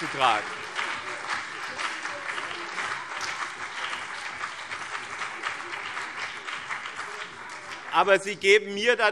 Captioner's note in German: Beifall BÜNDNIS 90/DIE GRÜNEN und CDU